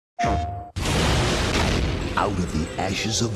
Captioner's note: booming